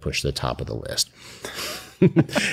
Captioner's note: laughs